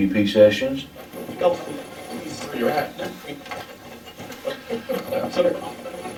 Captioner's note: static playback transmitting